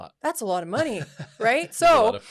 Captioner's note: laughs